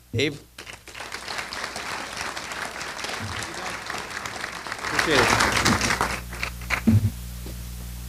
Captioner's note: applause